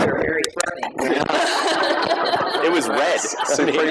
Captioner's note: laughter